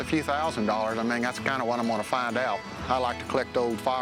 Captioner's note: none